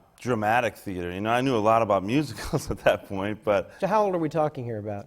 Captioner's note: laughs